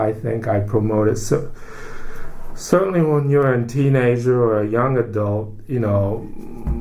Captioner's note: takes breath